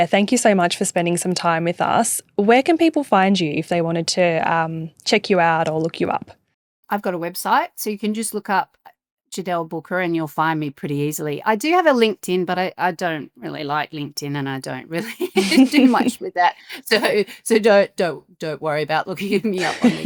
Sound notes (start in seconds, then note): 15.2 chuckling